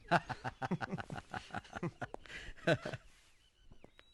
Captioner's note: laughing